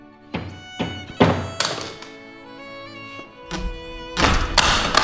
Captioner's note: banging